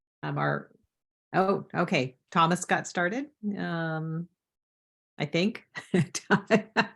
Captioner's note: laughs